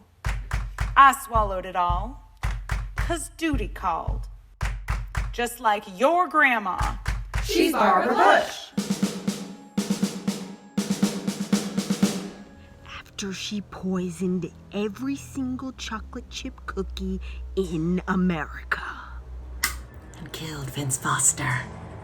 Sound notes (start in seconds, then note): 0.2 clap clap clap; 2.4 clap clap clap; 4.2 clap clap clap; 8.7 snare drum fill; 12.6 scary music